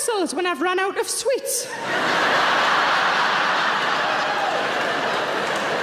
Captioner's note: audience laughing